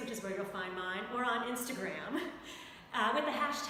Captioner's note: chuckles